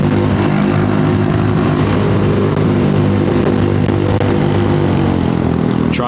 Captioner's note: engine noise